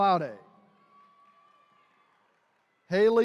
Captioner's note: attendees cheering